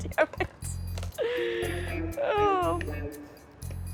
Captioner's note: laughs